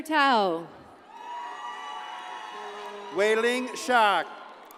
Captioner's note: audience cheers and applauds